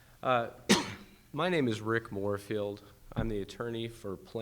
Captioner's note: coughs